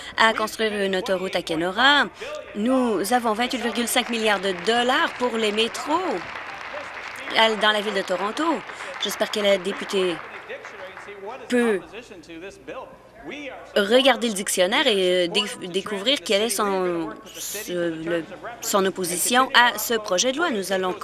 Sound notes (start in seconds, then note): 9.6 applause